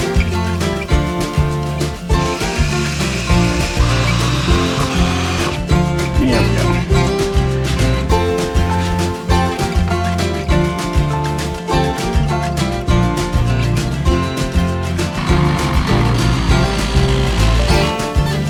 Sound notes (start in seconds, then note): 2.1 muffled drill noises; 15.1 muffled saw noises indicate I know how much to cut off